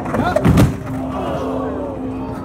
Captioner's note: loud thud; crowd groans